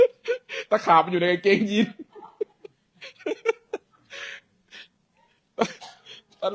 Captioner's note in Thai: เสียงหัวเราะ